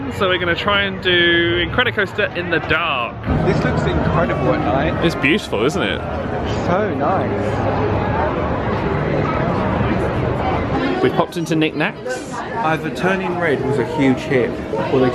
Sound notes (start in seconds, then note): 8.3 people chattering